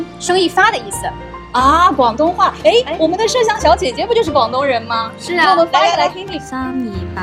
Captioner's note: Cantonese